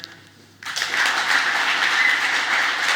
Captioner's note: applause